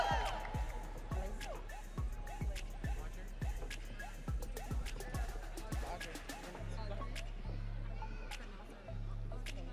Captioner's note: audience cheering